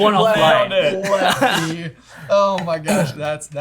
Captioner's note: laughter